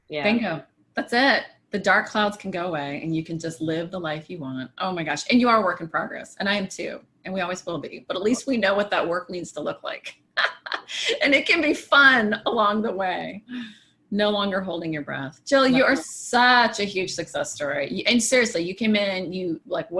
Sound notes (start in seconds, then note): 9.9 laughs